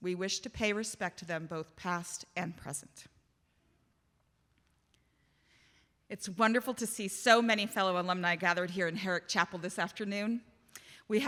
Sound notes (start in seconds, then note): none